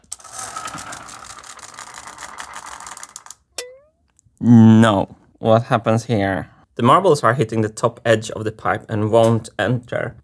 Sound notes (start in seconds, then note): 3.6 boing